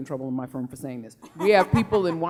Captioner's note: laughing